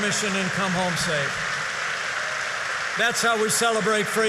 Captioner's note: applause